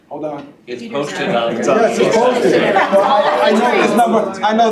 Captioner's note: indistinct chatter